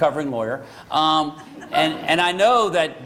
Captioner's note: laughter